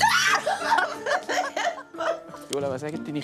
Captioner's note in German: Schreit und lacht laut